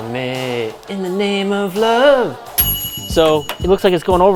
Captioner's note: microwave dings